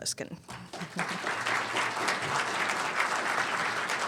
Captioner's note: audience applauds